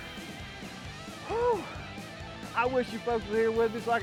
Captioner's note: gasping